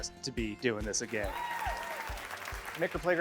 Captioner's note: audience cheers